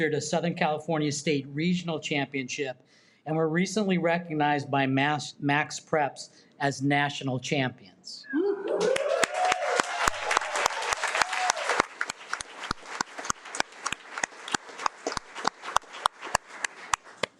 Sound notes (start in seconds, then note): 8.6 audience applauding